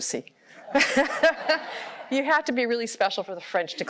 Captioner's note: laughter